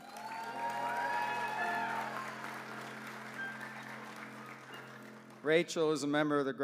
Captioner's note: applause